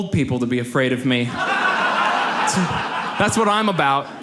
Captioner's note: audience laughs